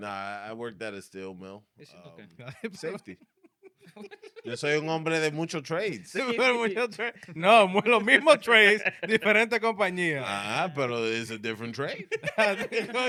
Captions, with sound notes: Nah, I worked that at Stillmill. It's okay. Safety. (Laughing) So you're gonna bring them mucho trades. Mucho trades? No, mucho trays, different company. Nah, but it's a different trade.